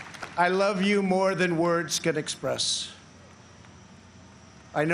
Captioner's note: applause